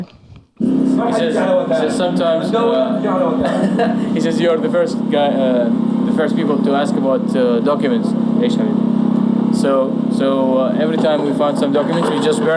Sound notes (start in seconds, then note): 3.2 chuckling